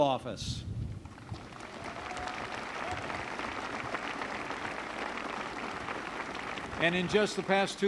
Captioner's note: applause